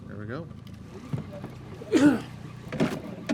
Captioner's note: boat engine idling; clattering